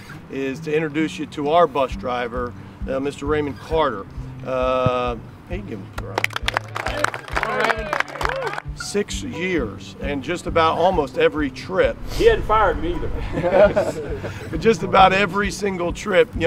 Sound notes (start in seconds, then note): 5.9 team clapping